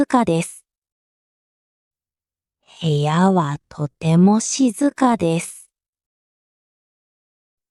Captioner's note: quiet